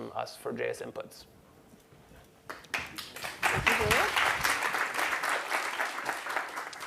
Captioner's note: applause